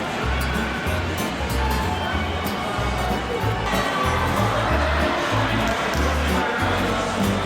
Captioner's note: laughs